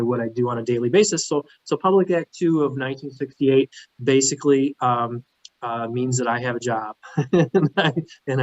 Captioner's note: laughs